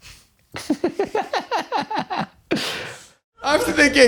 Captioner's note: laughing